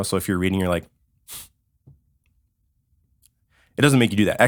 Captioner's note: nose breathe